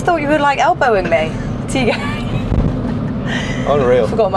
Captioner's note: wheezing